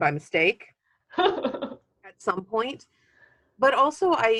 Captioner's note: laughing